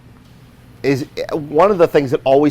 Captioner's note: stuttering